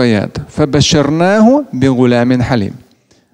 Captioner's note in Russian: Говорит на арабском